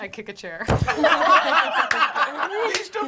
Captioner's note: laughing